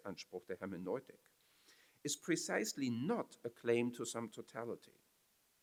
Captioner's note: foreign language